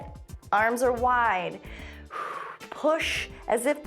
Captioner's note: exhales